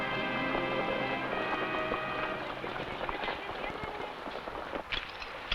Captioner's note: horse hooves pattering